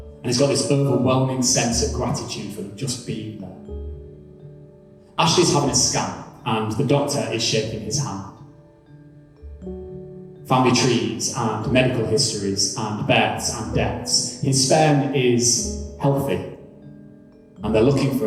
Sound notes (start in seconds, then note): none